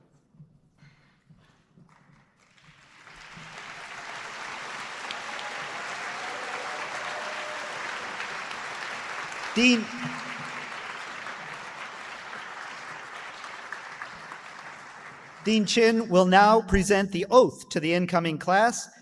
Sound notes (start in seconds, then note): 4.3 applause